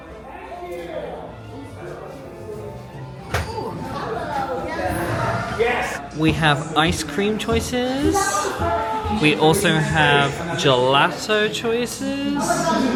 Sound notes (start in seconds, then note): 0.2 crowd chattering; 0.6 gentle music; 3.2 door clicking